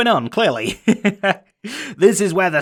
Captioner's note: laughs